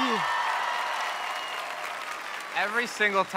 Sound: audience cheers

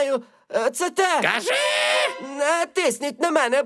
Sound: shouting

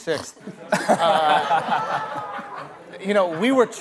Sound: laughter

